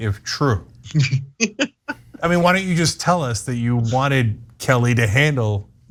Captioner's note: laugh